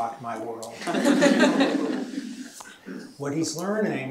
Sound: chuckling

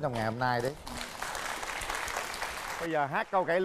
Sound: applause

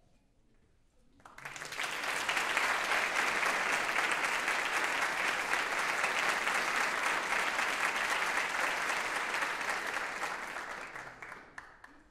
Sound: applause

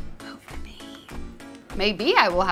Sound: whispering

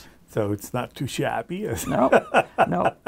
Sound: laughs

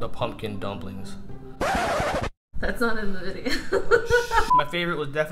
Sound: record scratch

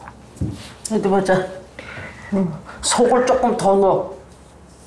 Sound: speaking Korean

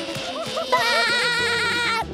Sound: laughing

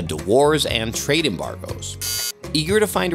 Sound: buzzer buzzing

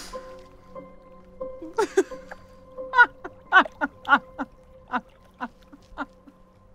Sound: laughing

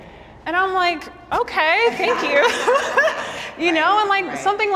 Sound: chuckles

